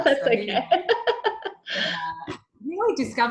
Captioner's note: both laughing